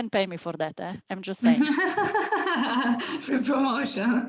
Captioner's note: laughter